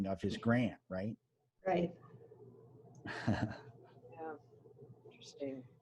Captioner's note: laughs